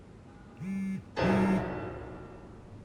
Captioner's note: phone vibrates